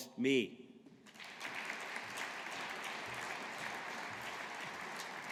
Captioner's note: audience applauding